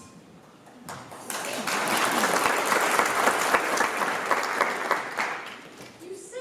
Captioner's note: applause